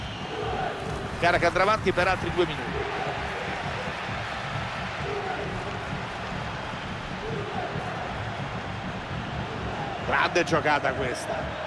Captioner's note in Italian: Applauso; Applauso